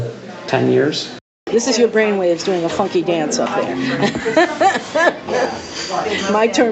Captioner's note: laughs